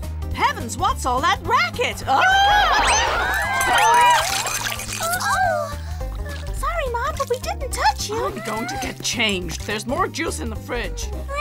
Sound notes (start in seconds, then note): 3.0 yelling; 4.9 gasping